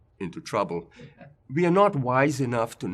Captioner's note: laugh